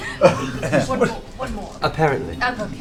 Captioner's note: laughter